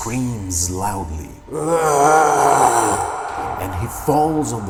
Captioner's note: Doris screaming